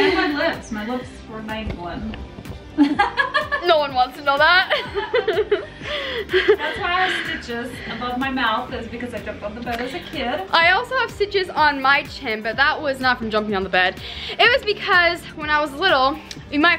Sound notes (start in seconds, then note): 2.8 laughs